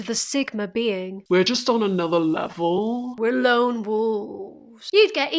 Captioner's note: hippie voice